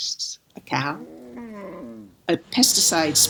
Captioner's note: cow moos